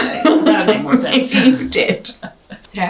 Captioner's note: laughs